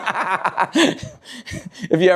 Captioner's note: laughs